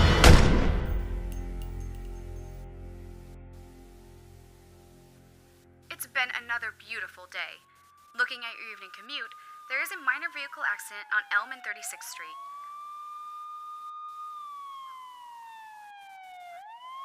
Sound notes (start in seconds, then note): 0.0 gunshot fires; 1.2 metallic clanking; 3.1 static buzzing; 12.3 sirens whirring